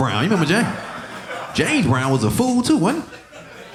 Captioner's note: audience laughing